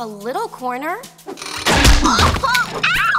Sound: yelling

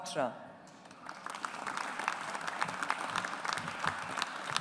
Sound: audience applauds

